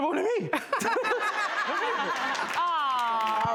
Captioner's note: all laughing